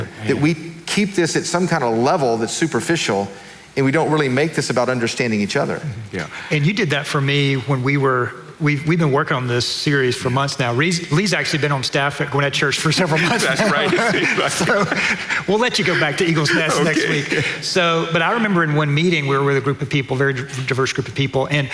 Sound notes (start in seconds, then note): 14.9 laughing; 17.9 laughing